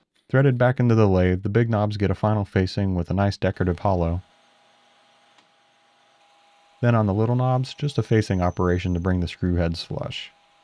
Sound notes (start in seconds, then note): 3.5 lathe machine whirring